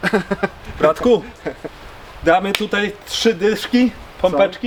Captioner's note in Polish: śmiech